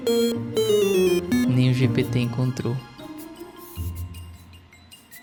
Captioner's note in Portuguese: efeito sonoro